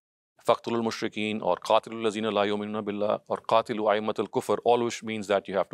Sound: speaker speaks in foreign language

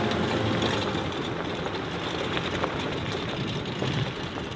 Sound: car engine rumbling

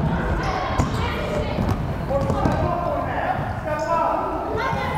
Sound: fans shouting

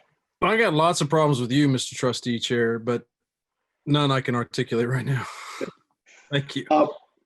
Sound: laughs

